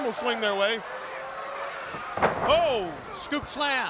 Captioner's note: crowd cheering